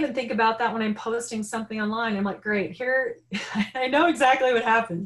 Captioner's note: laughing